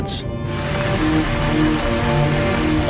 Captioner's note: water running